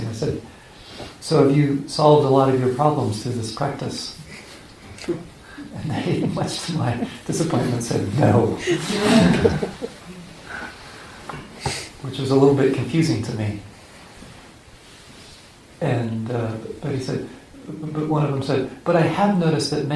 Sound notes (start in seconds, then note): 8.2 laughing